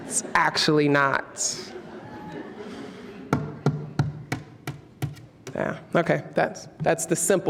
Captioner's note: taps the podium